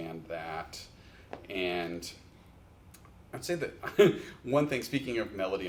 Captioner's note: chuckles